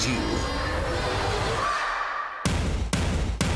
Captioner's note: crowd cheering